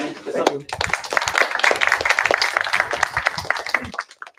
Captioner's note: applause